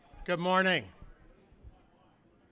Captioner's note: chatter